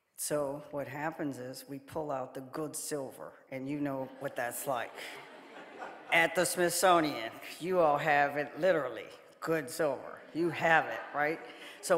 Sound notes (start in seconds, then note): 4.0 audience laughing